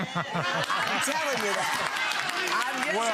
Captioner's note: audience applauds